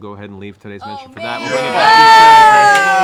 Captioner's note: yelling